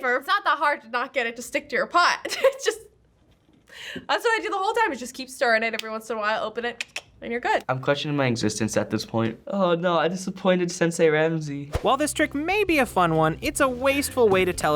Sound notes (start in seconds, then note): 11.3 voice-over